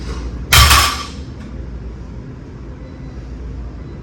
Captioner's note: weight clanks